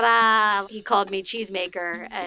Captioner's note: speaks in foreign language